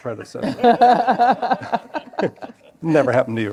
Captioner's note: laughter